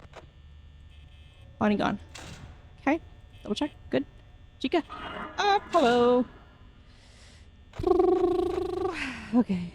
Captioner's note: trills lips